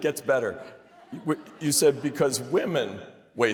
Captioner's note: laughter